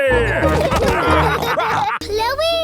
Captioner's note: all laughing